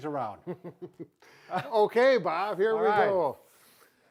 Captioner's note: laughs